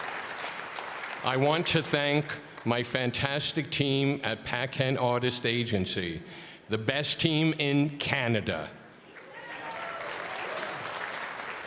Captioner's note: cheering and applause